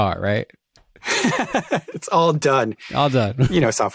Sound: laughs

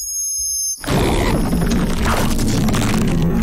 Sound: growling; screeching

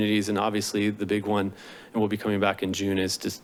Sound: inhales

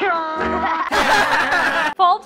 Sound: fake laughter

